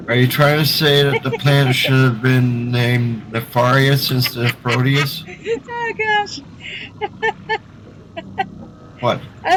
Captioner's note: laughter